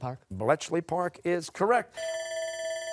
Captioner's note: bell ringing